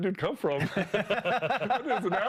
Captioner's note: laughing